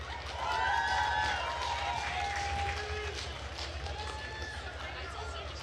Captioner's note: attendees cheering and applauding